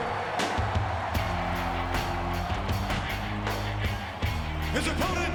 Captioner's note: crowd cheering; upbeat music